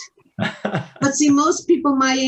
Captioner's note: chuckles